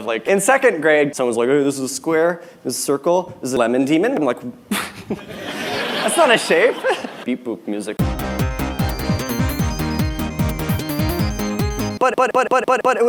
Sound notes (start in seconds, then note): 4.7 laughter; 4.8 chuckles